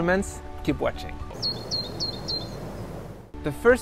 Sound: bird singing

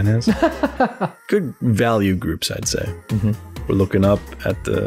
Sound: laughter

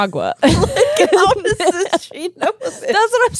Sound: laugh

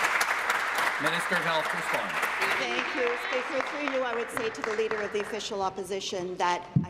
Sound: applause

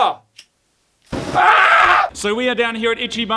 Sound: painful scream

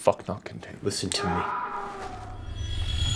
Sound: man screams in the distance

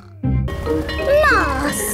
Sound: bell ringing

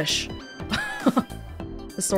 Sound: chuckles

